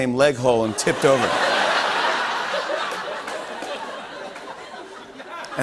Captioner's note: laughter